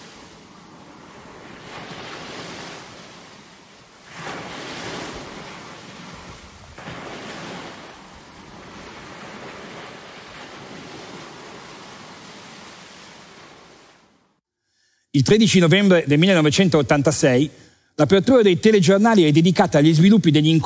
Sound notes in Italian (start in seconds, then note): 8.6 onde del mare in sottofondo